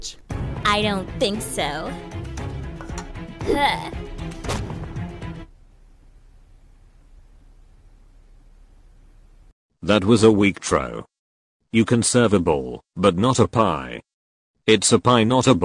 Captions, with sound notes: (dramatic music) O I don't think so. Oikawa throws the pie at the killer. O Huh! The pie drops not even reaching the killer. (splat) That was a weak trow. You can serve a ball but not a pie. It's a pie not a ball.